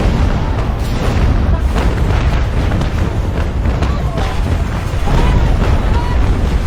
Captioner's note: explosions booming; soldiers shouting